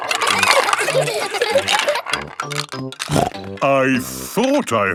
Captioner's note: laughter; snorting